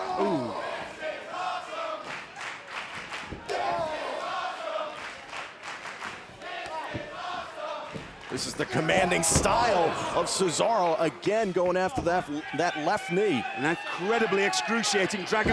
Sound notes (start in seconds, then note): 2.0 clapping; 3.4 wrestlers grunting; 4.9 clapping